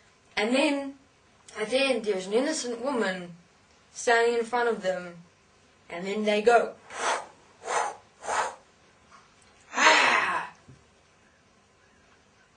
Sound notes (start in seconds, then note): 9.7 ahhh